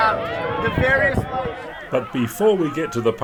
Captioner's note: cheering